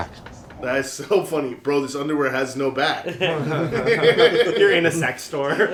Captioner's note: laughter